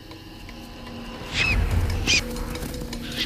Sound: squealing

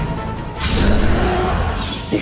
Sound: growling

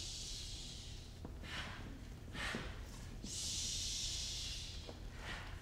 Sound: harsh breaths

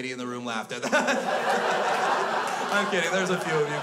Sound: crowd laughs

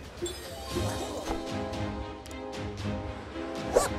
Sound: video game sounds

